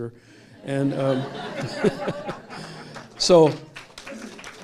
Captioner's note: laughter & applause